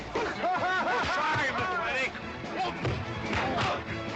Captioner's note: laughing